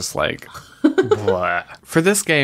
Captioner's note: laughs